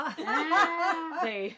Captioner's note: laughing